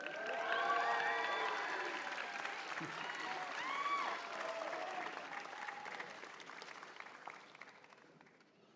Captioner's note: cheers and applause